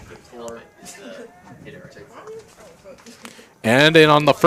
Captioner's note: indistinct chatter